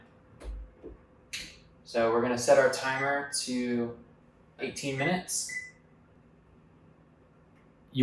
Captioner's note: oven beeps as buttons are pushed